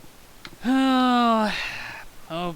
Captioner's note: sigh